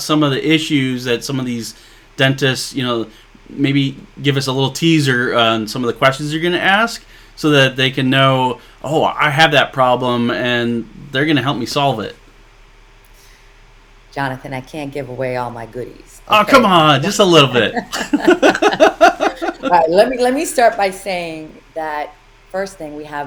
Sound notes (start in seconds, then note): 17.0 laughing